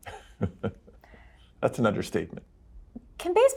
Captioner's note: chuckles